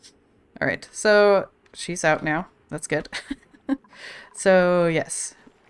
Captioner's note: laughs